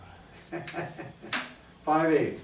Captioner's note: laughs